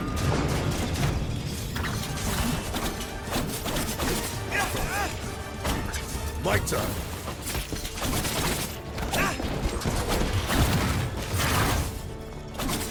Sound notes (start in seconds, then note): 0.0 explosions blasting; 1.9 swords whooshing; 4.5 characters grunting; 6.3 speaking in foreign language; 7.3 swords whooshing; 9.1 characters grunting; 9.9 explosions blasting